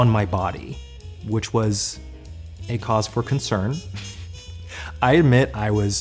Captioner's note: laughs